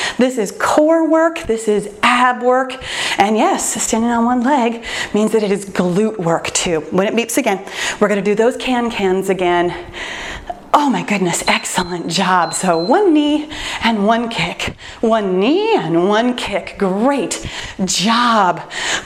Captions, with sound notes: This is core work. This is ab work. Yes, standing on one leg means that it is glute work too. When it beeps again, we're going to do those can cans again. Oh my goodness, excellent job. [timer beeps] One knee and one kick. One knee and one kick. Great job.